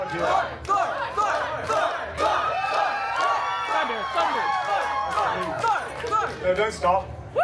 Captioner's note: guests cheering and chanting Thor’s name